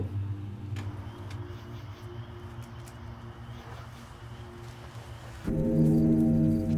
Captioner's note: crickets chirping; ominous music